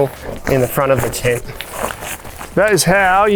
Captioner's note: canvas rolling